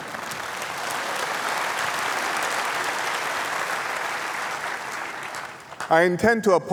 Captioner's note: laughter and applause